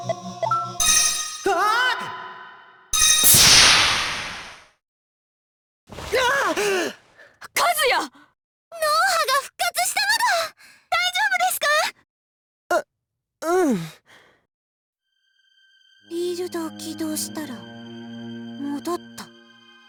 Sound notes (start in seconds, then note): 3.2 silence; 6.5 shocked gasp